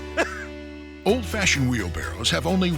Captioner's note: laughs; voiceover